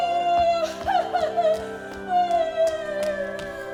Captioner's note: cries